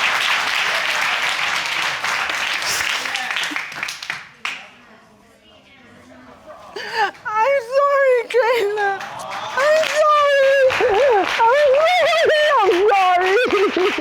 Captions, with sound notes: (CRYING) I'm sorry, Cayla. I'm sorry. I really am sorry.